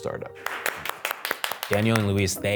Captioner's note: applause